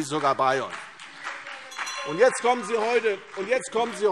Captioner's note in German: Beifall CDU und BÜNDNIS 90/DIE GRÜNEN - Zurufe SPD - Glockenzeichen